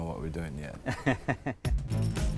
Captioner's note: laughs